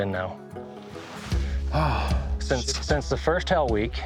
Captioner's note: sighs